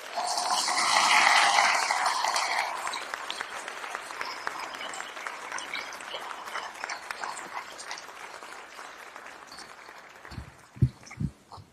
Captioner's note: applause